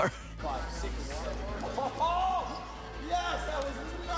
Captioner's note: exclaims happily